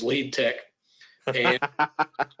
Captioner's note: laughs